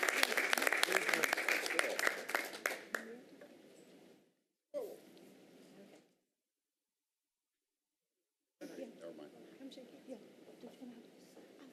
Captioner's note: applause